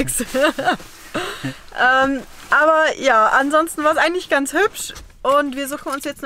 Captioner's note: laughter